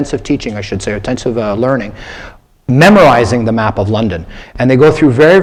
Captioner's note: none